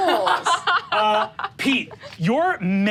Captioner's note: laughs